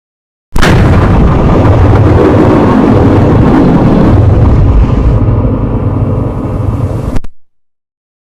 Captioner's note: Gigaette CGI Shadow & Gigaette Modern Styled Shadow Closeup Sound